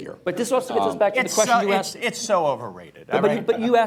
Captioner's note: laughter